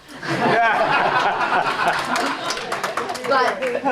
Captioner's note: laughter